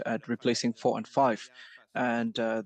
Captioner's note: speaking French